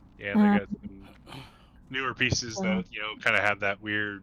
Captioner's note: laughs